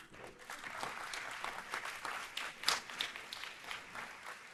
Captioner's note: audience applauding